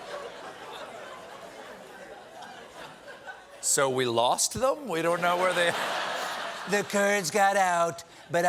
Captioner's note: laughter